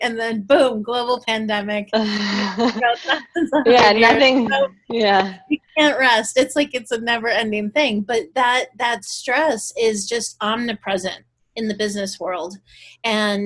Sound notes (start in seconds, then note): 1.8 both chattering